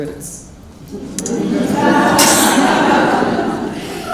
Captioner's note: laughing